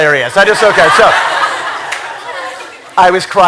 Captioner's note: laughter